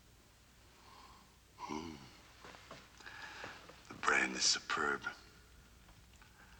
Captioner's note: sniffs, Sighs